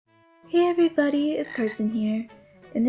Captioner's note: ribbit!